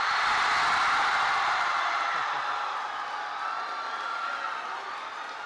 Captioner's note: applause